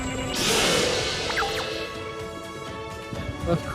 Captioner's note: gadjiltron roar